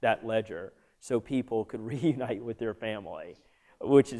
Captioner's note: laughter